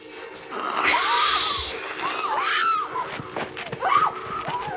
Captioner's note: dramatic music; all screaming